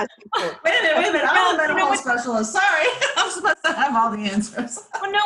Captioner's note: laughs